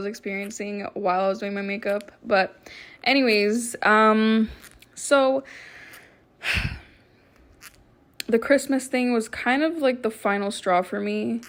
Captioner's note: sighs